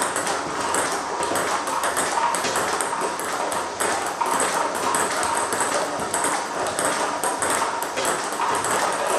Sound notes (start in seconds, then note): 3.4 ball ping pong hitting continues